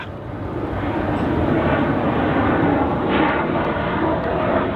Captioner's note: jet engine roaring